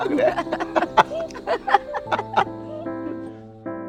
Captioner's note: both laughing